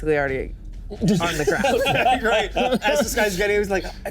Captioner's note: all laughing